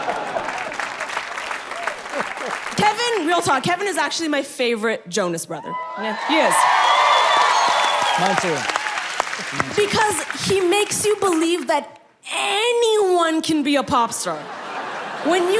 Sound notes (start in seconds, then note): 0.0 people clapping; 5.6 people cheering; 14.3 people laughing